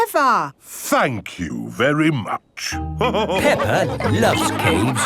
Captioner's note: all laughing